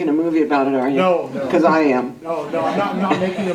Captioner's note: laughter